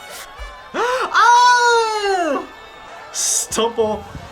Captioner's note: gasps